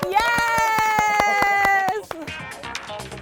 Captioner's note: claps; upbeat music